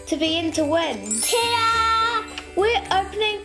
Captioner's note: magical bells ring